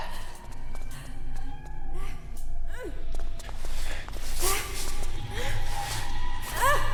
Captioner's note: footsteps tapping; woman grunting